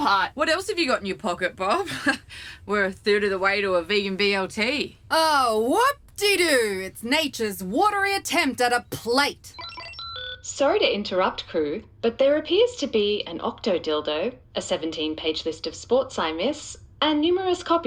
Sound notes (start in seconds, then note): 8.5 the Computer beeps